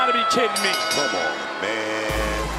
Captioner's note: bell rings